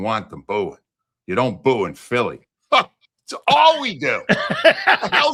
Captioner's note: laughing